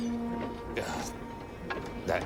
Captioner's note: groans